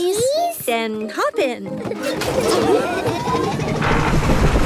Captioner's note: laughing